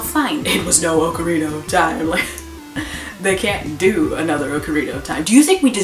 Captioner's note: scoffs